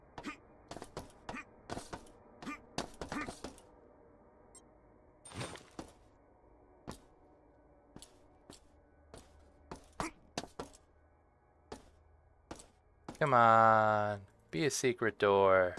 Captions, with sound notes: (footsteps) - Come on, be a secret door.